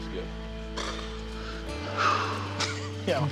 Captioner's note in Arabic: يزفر